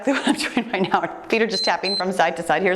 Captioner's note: timer beeps